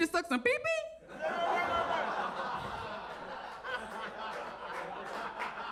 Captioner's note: audience laughs and claps